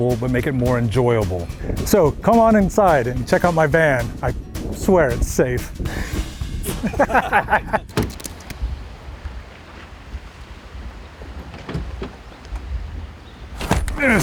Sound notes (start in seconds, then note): 6.6 laughing; 7.8 keyboard clacking; 11.7 van door clicking